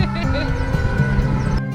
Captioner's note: both laught